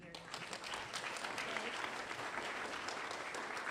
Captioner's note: applause